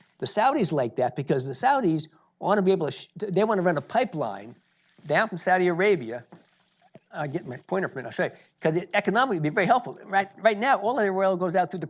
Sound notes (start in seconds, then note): none